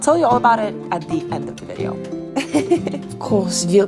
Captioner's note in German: lacht